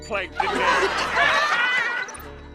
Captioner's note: laughing